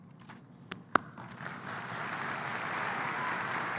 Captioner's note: applause